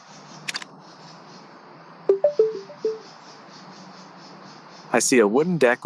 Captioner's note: Meta clicks and beeps